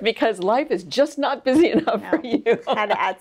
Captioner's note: laughs